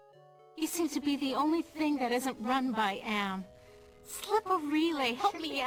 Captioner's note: giggles